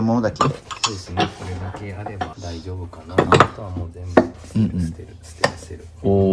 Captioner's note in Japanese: 鼻息